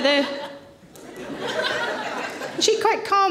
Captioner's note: audience laughing